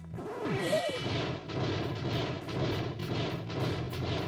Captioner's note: gasp